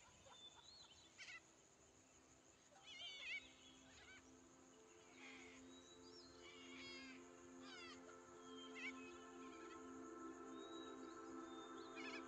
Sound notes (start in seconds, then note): 0.0 laughter; 2.9 birds chirping; 2.9 placid music